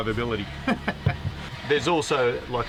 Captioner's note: laughs